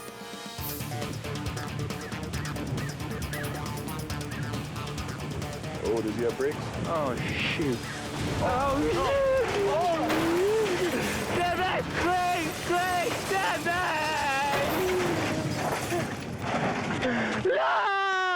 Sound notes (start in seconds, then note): 0.3 energetic music; 8.3 screams indistinctly